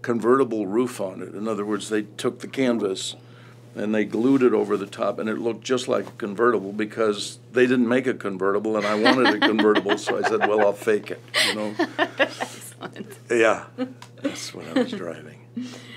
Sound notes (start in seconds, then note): 8.8 laughter; 11.3 laughs